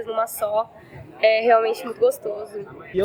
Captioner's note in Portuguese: barulho da plateia se dispersando ao fundo